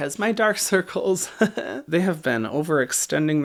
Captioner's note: chuckles